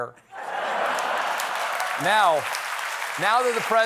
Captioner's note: laughter; applause